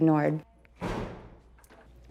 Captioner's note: door closing